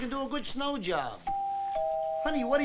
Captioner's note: doorbell chiming